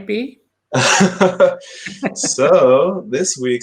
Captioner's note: laughs; chuckles